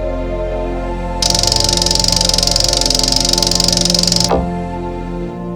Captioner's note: object clicking